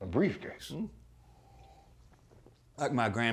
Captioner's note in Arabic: التلعثم